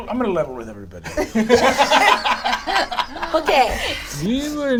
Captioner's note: all laugh